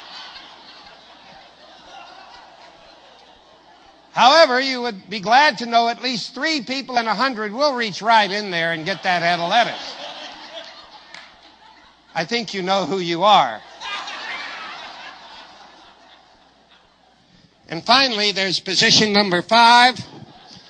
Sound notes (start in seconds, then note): 0.0 risate, applausi; 13.6 risate, applausi